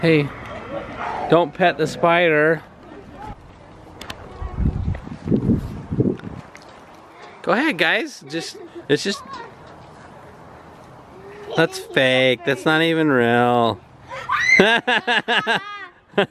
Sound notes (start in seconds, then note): 14.0 children shriek; 14.5 laughs